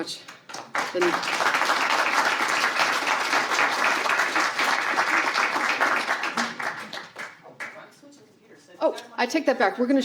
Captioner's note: applause